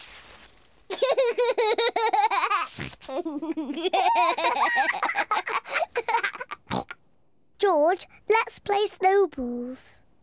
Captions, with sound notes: (LAUGHS) (GIGGLES) George, let's play snowballs.